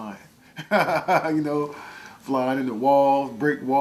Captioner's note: laughing